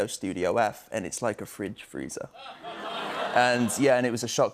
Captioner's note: laughter